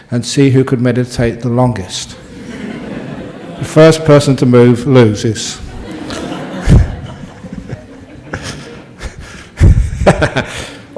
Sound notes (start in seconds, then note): 2.2 laughter